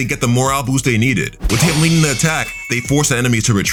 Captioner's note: swords clanking